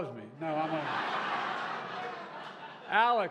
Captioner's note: laughter